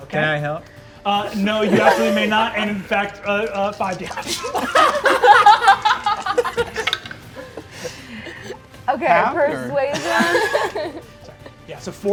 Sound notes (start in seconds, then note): 4.5 dice rattling; 4.5 players laughing